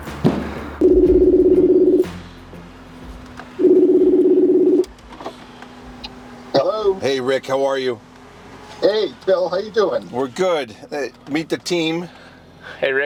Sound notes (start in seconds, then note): 0.7 dial tone ringing